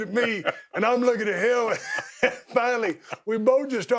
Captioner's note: chuckling